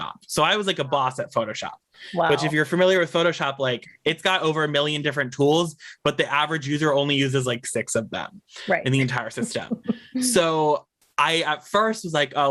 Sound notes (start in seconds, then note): 8.7 laughs